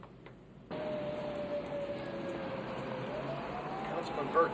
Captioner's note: siren wailing; vehicles humming